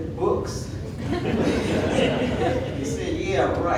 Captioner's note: audience laughing